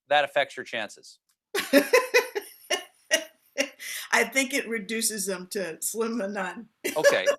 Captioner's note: laughter